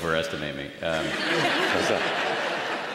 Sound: laughter

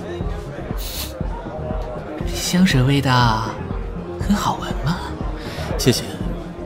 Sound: sniffs

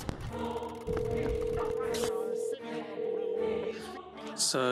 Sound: phone ringing

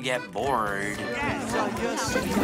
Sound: chatter

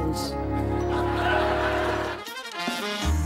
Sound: laughter

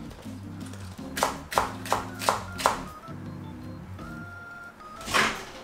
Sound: scallions crunching; microwave door popping

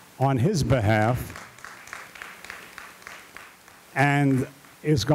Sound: audience applauding

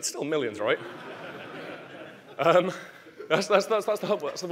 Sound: audience laughing

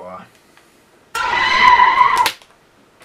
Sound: horror noises

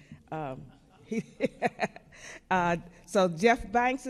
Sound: man laughs; laughs

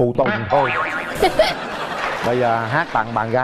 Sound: audience laugh

